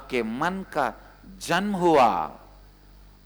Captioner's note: hindi